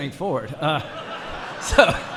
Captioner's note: laughter